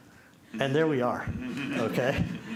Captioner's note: chuckles